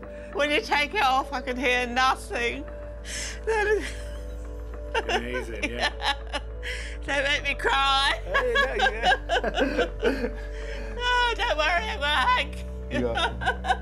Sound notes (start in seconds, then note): 4.3 laughs; 7.6 they laugh